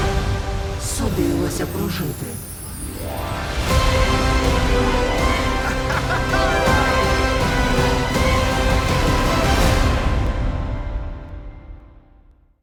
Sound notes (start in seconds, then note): 5.3 Cricket laughs; 9.6 music fades